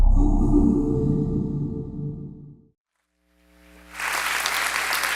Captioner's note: digital tone; audience applauds